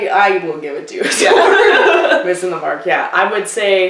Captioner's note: laughter